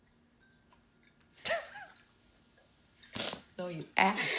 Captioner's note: chuckling